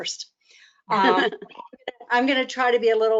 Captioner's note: laughs